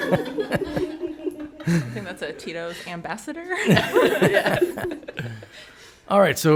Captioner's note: all laugh; all laugh